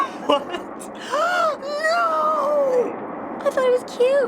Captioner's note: cracking up; aghast shock